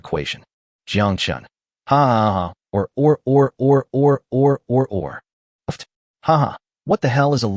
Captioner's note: hahahahahahahaha or or or or or or or or!